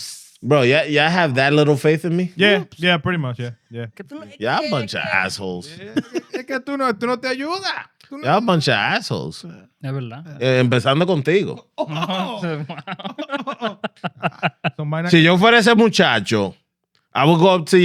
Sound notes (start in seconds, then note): 10.4 speaking Foreign Language; 11.5 laughing